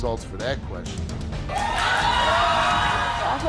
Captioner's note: audience yelling